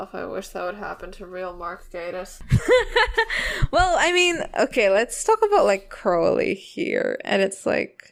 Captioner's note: laughing